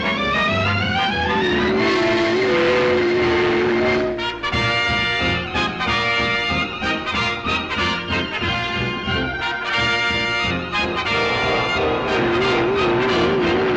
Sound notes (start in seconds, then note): 1.9 engine rumbling; 4.3 triumphant music